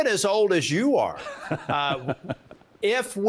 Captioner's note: laughing